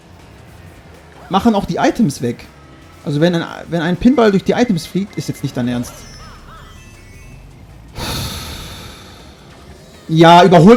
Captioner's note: sigh